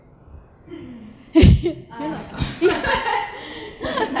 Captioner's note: all laughing